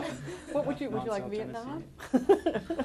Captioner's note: laughter